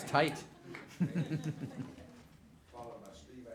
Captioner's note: laughter